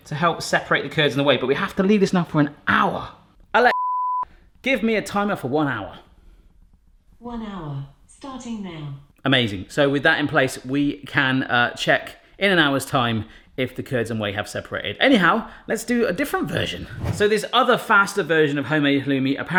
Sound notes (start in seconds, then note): 3.7 beep